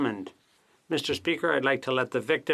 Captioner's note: speaking French